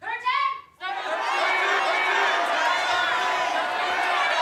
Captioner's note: cheering